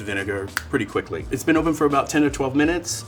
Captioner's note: fingers snapping